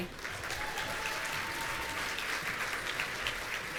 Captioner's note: audience cheering